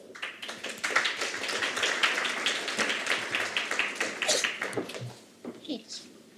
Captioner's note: Aplodeja